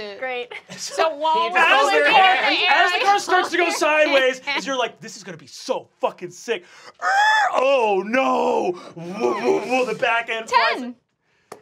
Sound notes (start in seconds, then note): 6.4 screeching